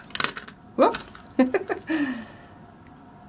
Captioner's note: laughs